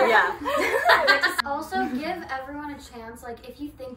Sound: laugh

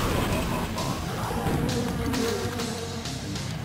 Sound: riot gun fire

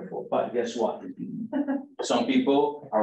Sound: chuckles

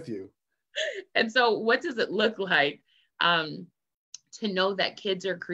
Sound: laughs

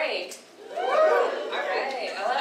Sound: audience cheers

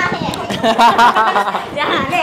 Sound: laugh

